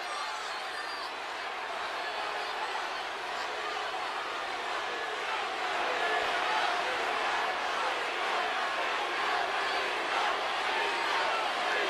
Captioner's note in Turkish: Alkış